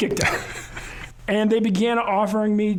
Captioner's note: both laughing